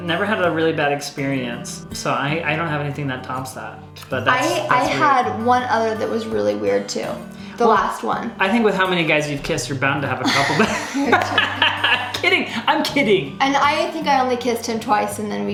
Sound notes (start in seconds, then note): 10.2 laughs